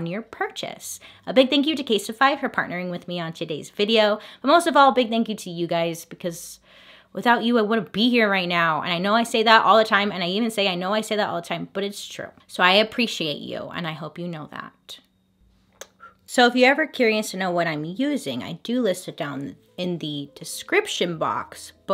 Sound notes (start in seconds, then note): 15.7 kisses and blows